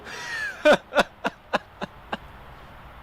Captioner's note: laughter